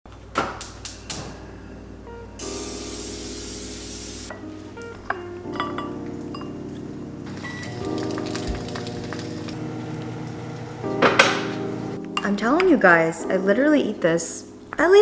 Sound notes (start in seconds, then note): 0.2 stove clicking; 2.2 spray hissing; 4.7 gentle music; 7.9 pan crackling